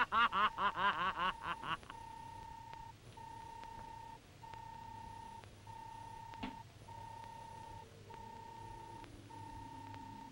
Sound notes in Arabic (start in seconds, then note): 3.8 صوت الروبوت